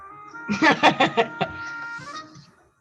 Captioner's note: laughs